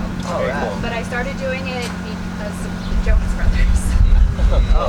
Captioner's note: laughs